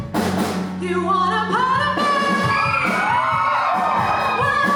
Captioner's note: audience screams